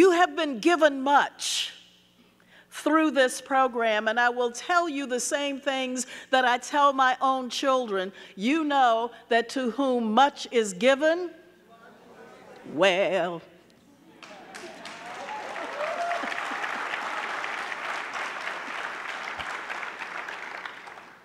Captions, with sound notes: You have been given much through this program and I will tell you the same things that I tell my own children. You know that to whom much is given, (audience chattering) well... (chuckles) (audience cheering)